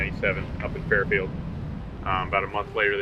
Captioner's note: air rushing